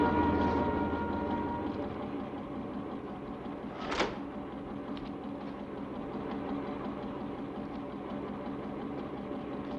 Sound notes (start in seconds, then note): 3.8 door thuds; 6.9 machine humming